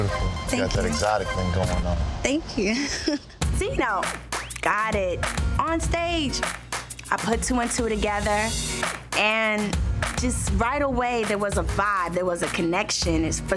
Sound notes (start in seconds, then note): 2.7 laughs